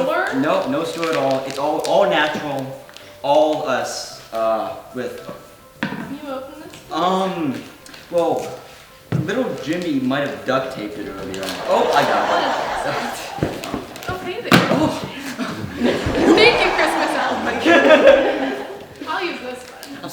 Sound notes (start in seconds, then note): 11.2 audience laughing